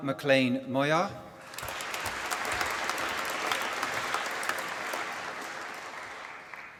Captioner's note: applause